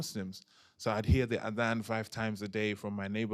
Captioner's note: non-english